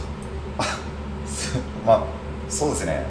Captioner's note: laughs